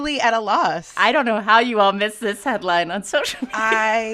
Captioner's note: laughter